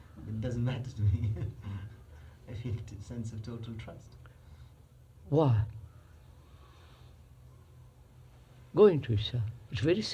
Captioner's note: laughs